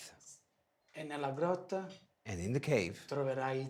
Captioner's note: speaking foreign language